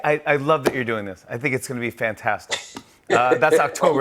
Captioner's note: chuckles